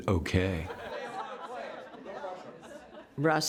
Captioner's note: laughter